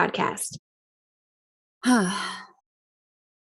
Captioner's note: sighs